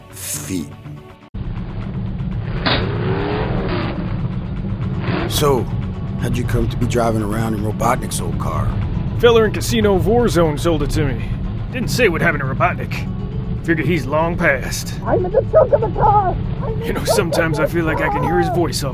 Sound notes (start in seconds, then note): 2.3 engine revving